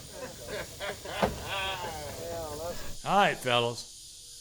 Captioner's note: all laughing